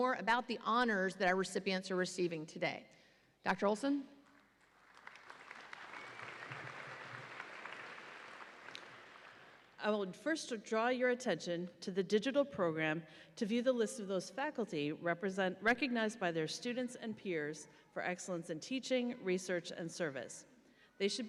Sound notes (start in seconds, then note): 4.6 audience applauds